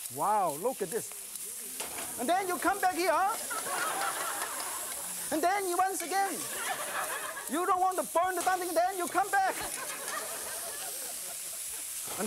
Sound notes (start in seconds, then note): 3.3 laughter; 3.3 crowd; 6.3 laughter; 6.9 crowd; 9.4 laughter; 9.6 crowd